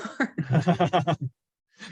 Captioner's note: laughter